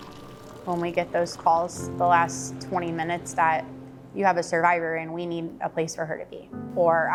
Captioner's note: milk pouring; emotional piano music